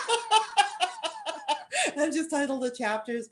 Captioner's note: laughter